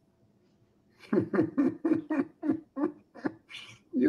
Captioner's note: chuckles